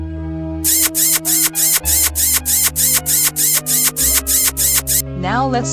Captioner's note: kissing